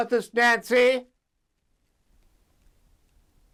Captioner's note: silence